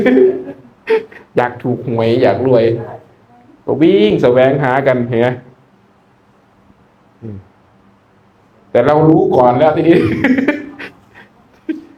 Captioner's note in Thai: เสียงหัวเราะ; เสียงหัวเราะ